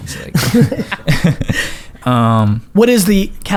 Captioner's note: laughs